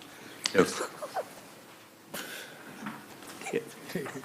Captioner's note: laughs